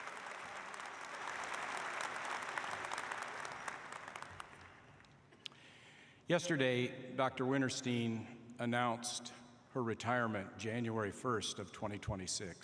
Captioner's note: applause